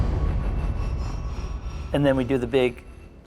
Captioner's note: explosion